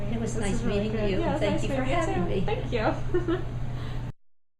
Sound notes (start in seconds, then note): 3.0 laughs